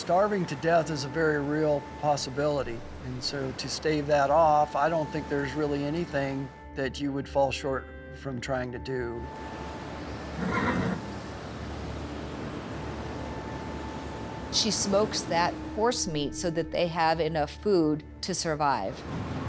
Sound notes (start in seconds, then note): 10.2 horse neighs